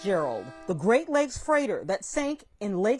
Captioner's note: horn honking